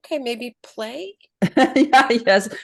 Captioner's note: laughs